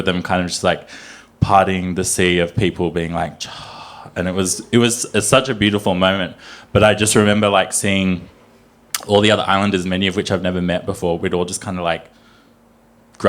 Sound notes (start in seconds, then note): 3.2 imitates water hushing